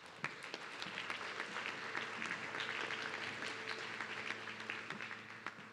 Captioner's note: audience clapping